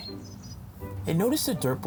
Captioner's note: bird chirping